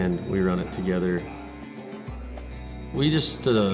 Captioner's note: sound of arena and auction